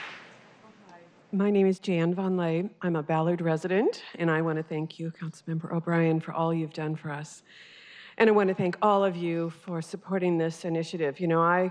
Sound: applause

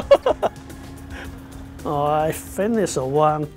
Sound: chuckles

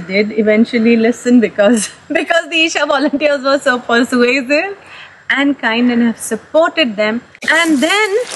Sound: laughs

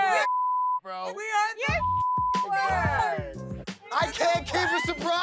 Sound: beep

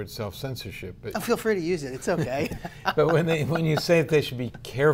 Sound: laughs

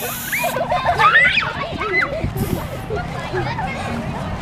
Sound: cans spraying; kids giggling

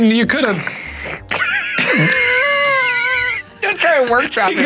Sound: laughing

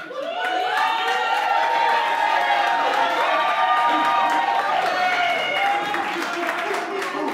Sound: applause

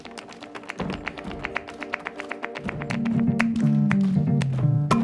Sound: clapping

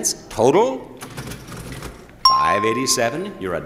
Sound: cash register dings

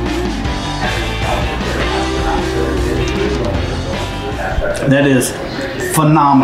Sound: television chatter

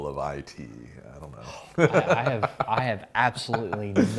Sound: laughs

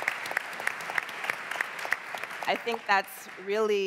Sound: applause

